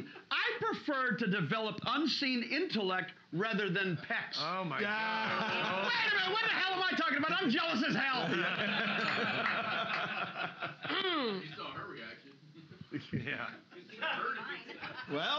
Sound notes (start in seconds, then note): 4.8 loudly laughing; 8.2 loudly laughing; 8.3 bell softly chimes